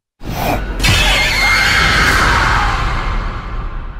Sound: scream

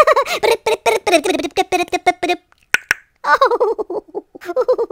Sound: beatbox; giggles

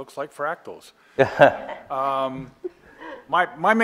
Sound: laughter

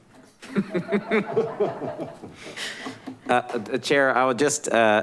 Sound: all laughing

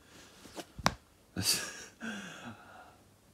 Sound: chuckles

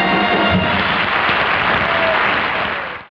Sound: audience applauding

